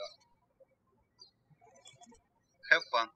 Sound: birds chirping

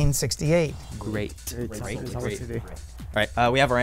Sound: wispering

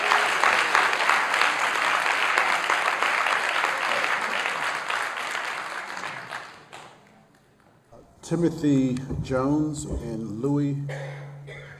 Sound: applause

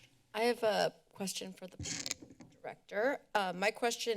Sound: mic noise

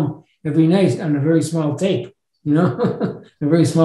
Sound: laughs

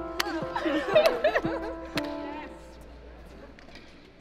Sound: both laugh

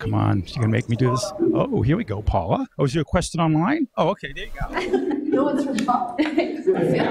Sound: audience laughs

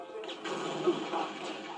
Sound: kaboom!

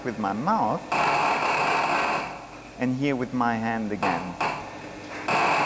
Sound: loud buzzing

